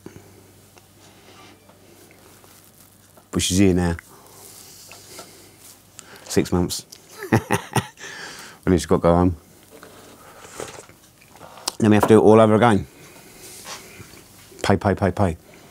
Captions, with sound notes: But she's here now. Six months (laughs), and then she's got to go home. Then we have to do it all over again, pay, pay, pay, pay.